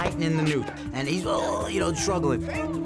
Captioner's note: imitates choking